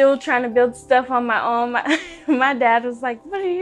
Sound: laughter

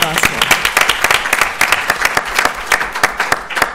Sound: applause

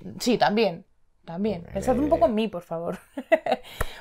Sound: giggles

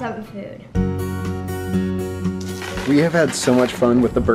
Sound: lively guitar music; bird food spreading

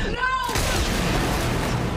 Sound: blaster shot

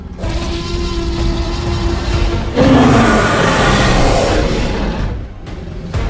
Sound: T-rex roaring loudly; suspenseful music

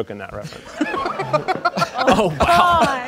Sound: audience laughing

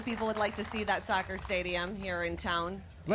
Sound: cheers and applause

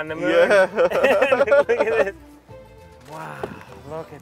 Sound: laughs

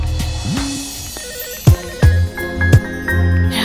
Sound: telephone ringing

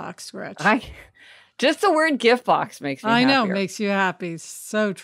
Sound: laughs

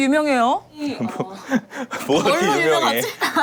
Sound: haha

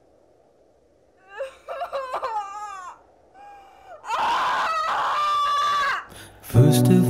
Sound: feletti cries

